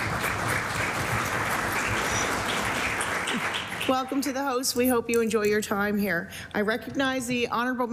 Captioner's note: applause